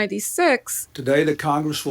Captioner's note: soundbite of archived recording